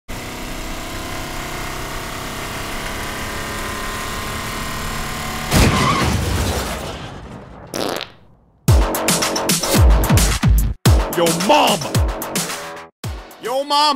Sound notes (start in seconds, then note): 0.1 car driving; 5.4 car crashing; 7.7 fart